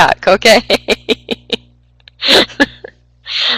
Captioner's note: laughter